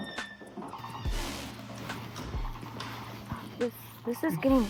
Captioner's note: door creaking